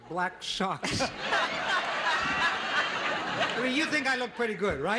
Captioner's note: audience laughs